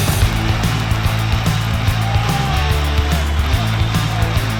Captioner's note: crowd cheering